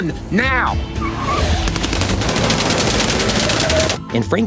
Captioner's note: guns firing